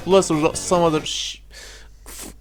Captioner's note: inhales